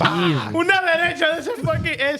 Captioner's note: laughing; speaking In Foreign Language